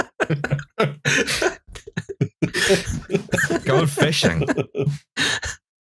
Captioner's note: laughter